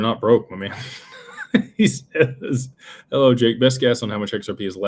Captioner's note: laughter